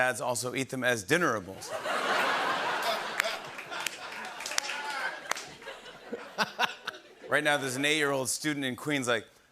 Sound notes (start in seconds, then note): 1.7 laughter and applause; 9.3 new York accent